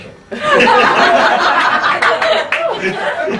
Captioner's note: laughing